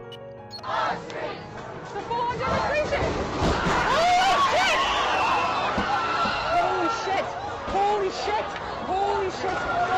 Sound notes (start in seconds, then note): 0.6 chanting; 3.8 screaming; 3.8 banging